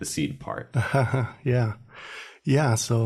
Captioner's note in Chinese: 笑声